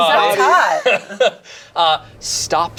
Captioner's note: group laughs